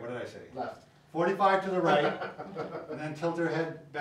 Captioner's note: laughing